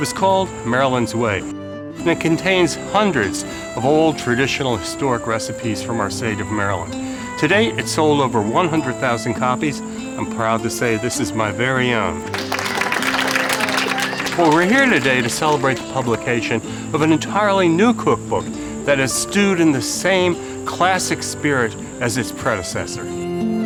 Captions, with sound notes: it was called "Maryland's Way" and it contains hundreds of old traditional historic recipes from our state of Maryland. Today, it sold over 100,000 copies, I'm proud to say this is my very own. (applause). Well, we're here today to celebrate the publication of an entirely new cookbook that has stewed in the same classic spirit as its predecessor.